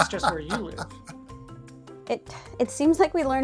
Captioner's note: laughs